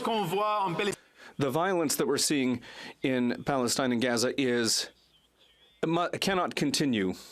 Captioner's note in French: voix de l'interprète